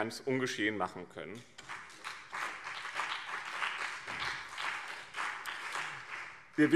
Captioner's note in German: Beifall BÜNDNIS 90/DIE GRÜNEN und CDU